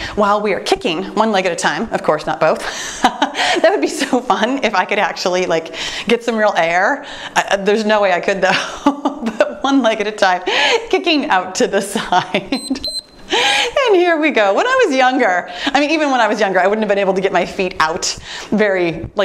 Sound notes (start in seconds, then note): 2.9 laughing; 12.5 timer beeps